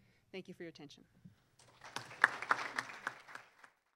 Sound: clapping

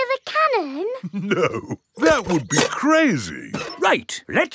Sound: chuckling

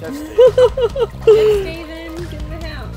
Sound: laughs

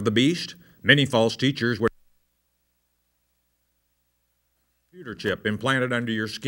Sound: audio cuts out

